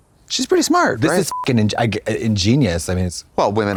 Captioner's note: beep